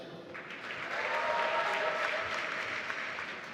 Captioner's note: applause